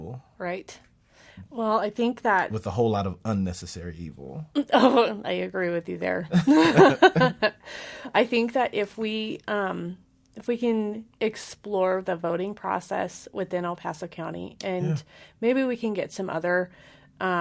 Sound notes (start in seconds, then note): 6.4 laughs